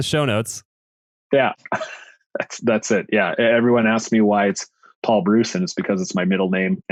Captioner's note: laughs